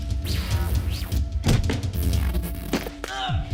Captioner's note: sounds of struggle and fighting